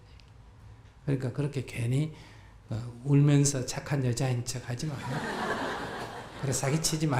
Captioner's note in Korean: 청중웃음